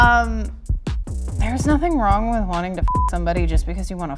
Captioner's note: beep